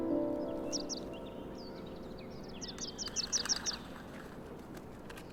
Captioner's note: birds chirping